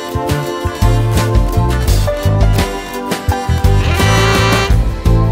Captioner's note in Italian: tu-tu-tu-tu-tu-tu-tu